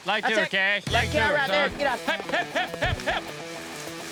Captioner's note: shouting